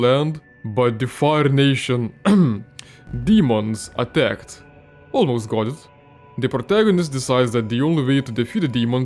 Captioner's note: ahem